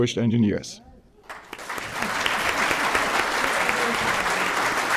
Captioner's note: applause